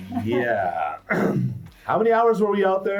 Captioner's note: chuckles; clears throat